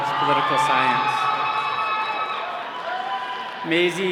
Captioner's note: all cheering